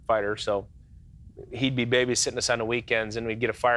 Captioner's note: laughs